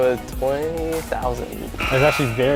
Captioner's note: error Buzzer